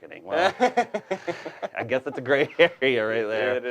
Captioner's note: laughs